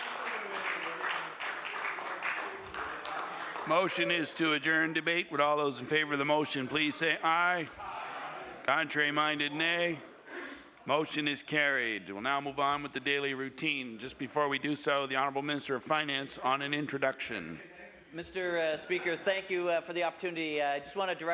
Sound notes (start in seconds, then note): 4.5 some Applause